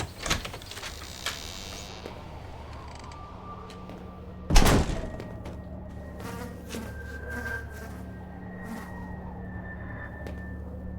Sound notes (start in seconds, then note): 5.8 flies buzzing